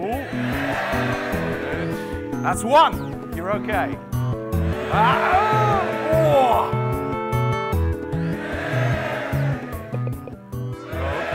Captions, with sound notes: Good. That's one, you're OK. (cheering)